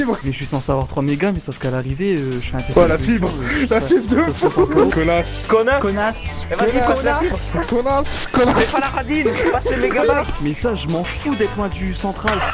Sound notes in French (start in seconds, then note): 2.6 rire